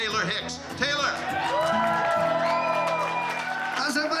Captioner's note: crowd cheering, clapping